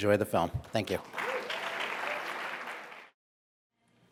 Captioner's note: applause